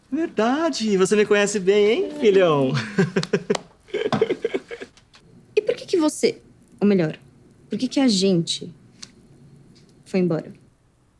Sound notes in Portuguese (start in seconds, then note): 2.7 risos